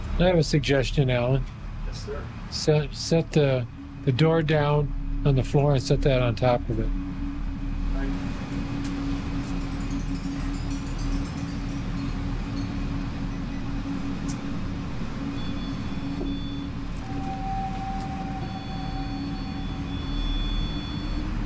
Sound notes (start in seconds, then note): 9.0 pipes clanking; 13.9 device beeps; 17.6 device ringing and beeping